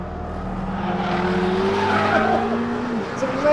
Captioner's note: tires screeching